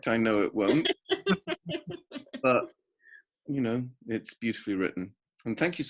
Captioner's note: laughs